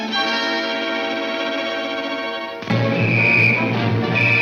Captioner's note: whistle blares